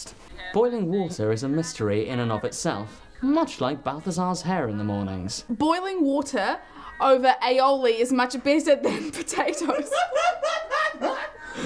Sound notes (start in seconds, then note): 1.5 plays through headphones; 9.5 laughter continues; 9.5 laughing